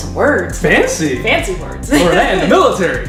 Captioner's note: laughter